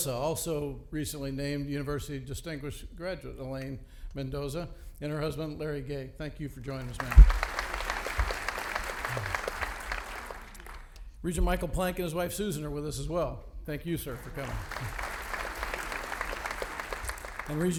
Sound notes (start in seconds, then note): 6.8 audience applauding; 14.1 audience applauding